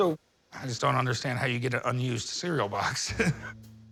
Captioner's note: laughs